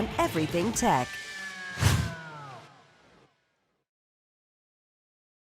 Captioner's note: sound effect